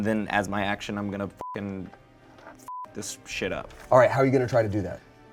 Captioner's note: beep